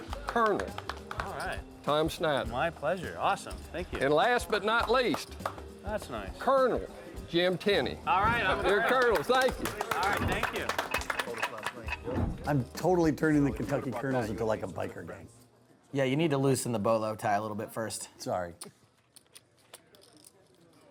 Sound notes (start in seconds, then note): 10.2 clock ticks